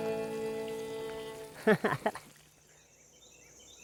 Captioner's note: laughing